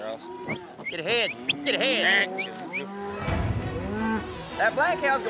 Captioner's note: whistling